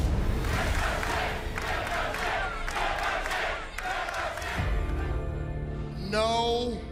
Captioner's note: crowd cheering